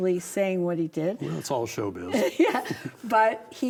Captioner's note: laughs